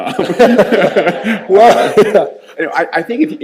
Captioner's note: all laughing